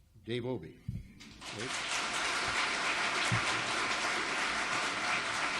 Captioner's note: audience applauds